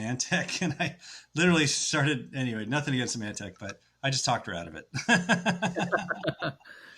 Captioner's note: laughs